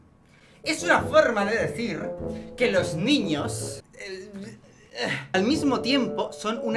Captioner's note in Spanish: balbucea sin sentido